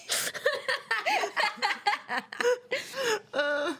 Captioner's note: women laughing